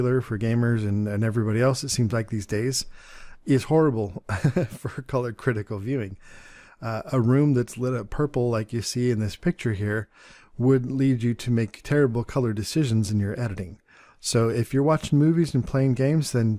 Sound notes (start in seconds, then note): 4.2 chuckles